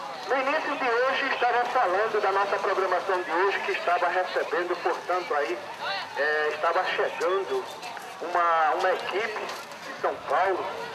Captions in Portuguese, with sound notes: No início de hoje estará agora falando de nossa programação de hoje que estava recebendo, portanto aí... [Burburinho de feira] estava chegando uma equipe de São Paulo [Burburinho de feira]